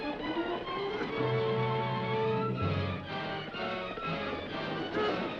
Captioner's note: dramatic music; horse hooves clopping